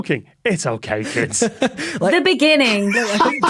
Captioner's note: laughs; cackles